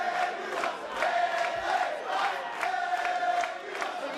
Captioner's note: fans chanting